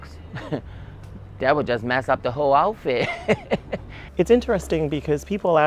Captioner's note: laughs